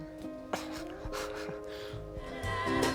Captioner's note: laughs